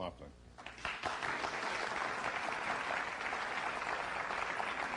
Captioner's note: applause